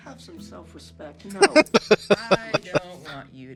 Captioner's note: laughing